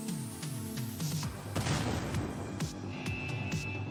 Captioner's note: explosion